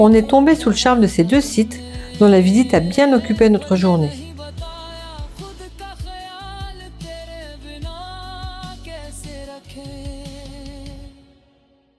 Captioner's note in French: chant